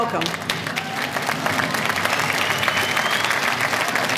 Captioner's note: applause